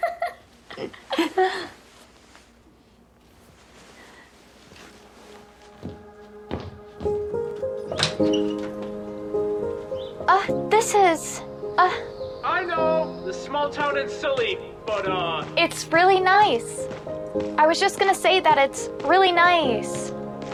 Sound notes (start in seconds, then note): 0.6 Holly laughing; 4.9 gentle music; 7.6 door creaking